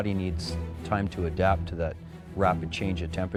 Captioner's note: voiceover